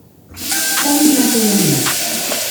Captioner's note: water running